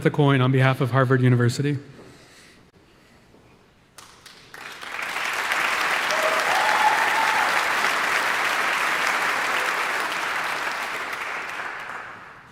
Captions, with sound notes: with a coin on behalf of Harvard University. (audience applauding) (audience cheering)